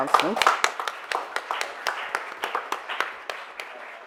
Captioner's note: audience applauds